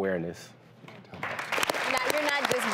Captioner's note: applause